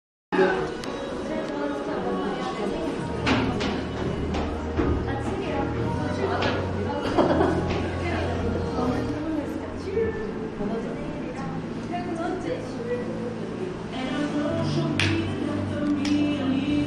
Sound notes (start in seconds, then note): 14.9 clap